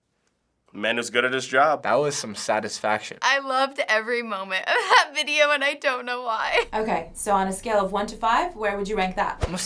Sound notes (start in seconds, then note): 5.1 chuckles